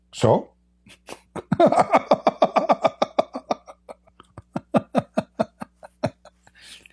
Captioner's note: Ketawa